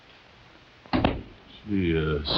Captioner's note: door slamming